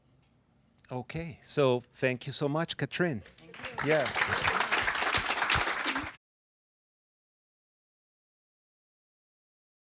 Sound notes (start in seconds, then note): 5.4 applause